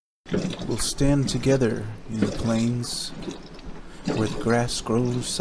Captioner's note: male Voice